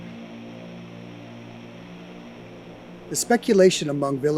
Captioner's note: aircraft whirs